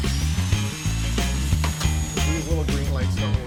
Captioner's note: buzzing